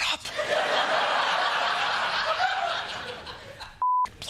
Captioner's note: laughter